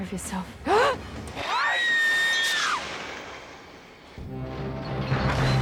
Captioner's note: Kate gasps; Kate screams; dramatic music